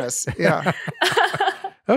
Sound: laughing

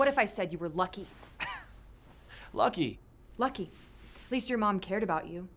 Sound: laughs

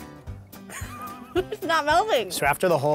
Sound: laughter

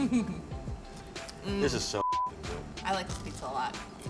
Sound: beep

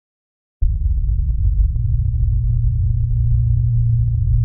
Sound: static hums

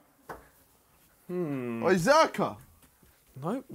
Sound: murmurs

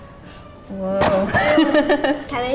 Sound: clay clatters; laughs

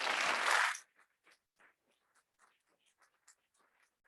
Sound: audience clapping

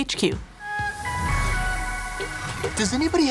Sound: upbeat music; electricity whirring

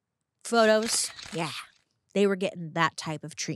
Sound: camera shutters clicking

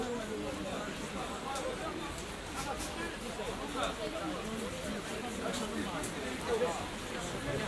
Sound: several voices, market?

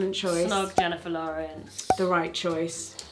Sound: cork popping

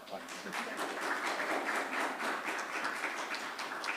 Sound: audience applauds

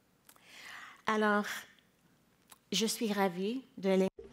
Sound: speaking in French

